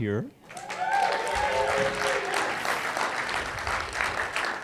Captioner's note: applause